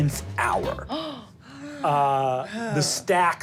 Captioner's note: gasping